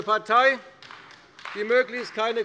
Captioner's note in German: Beifall bei der CDU